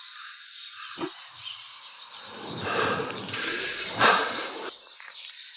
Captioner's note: birds chirping